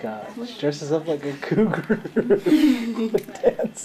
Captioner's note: laughing